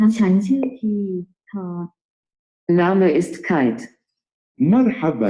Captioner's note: cycling through non english languages